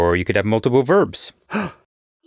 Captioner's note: gasp